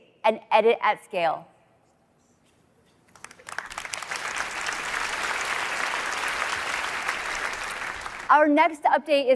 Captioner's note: applause